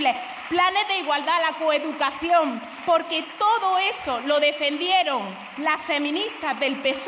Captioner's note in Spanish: Aplausos